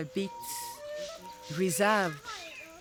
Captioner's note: village sounds